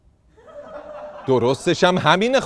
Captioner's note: laughter